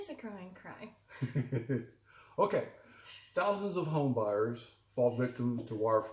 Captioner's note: laughs